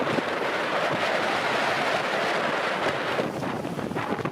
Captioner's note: wind blowing